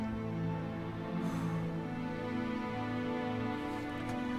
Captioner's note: sighs